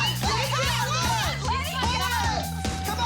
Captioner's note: overlapping chatter